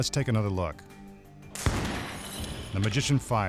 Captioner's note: gunshot